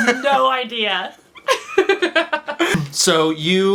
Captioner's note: laughs